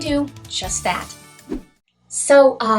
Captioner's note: swoosh